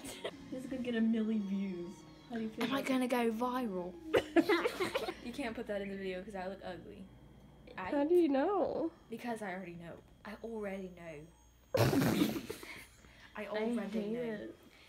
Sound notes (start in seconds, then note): 0.0 laugh; 2.6 British accent; 4.1 laugh; 5.3 regular voice; 10.4 British accent; 11.7 laughing